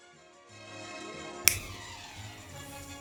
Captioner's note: snaps